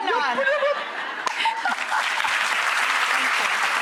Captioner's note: audience applauds